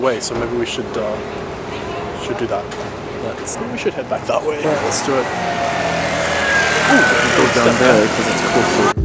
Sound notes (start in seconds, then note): 5.5 loud vehicle